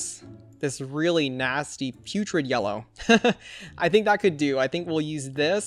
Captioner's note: laughs